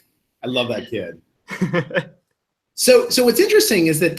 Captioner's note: laughs